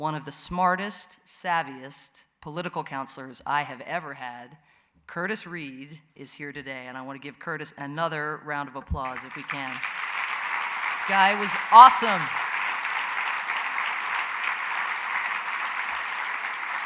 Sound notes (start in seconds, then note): 12.4 applause